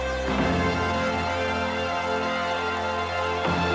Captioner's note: motivational instrumental music continues; crowd cheering